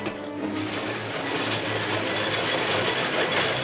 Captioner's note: train rumbling